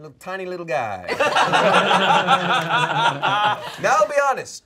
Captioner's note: all laughing